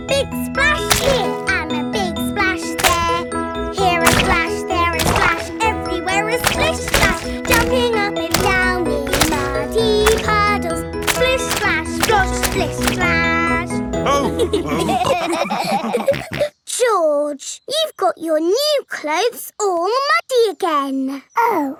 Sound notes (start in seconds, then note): 14.0 all laughing